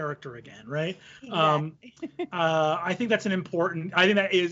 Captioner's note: laughs